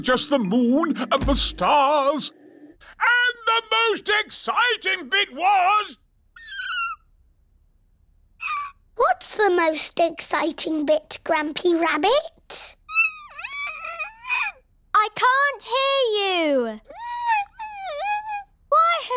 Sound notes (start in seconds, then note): 6.4 squeak!; 13.2 squeaks; 17.0 squeaks